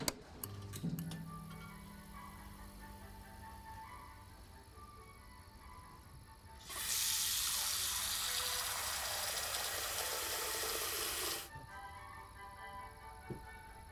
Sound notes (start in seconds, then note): 0.3 light clicks; 6.8 water splashing